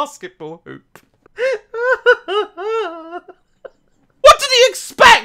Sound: laughs hysterically

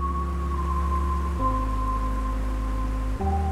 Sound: water rushing

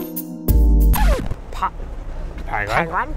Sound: sexy Food Porn Music; scratched record

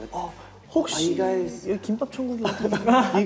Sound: speaking in Korean

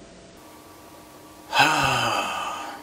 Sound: sigh

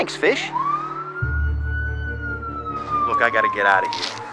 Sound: sirens blaring

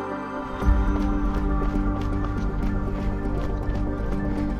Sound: footsteps crunching

